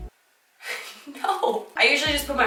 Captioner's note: laughs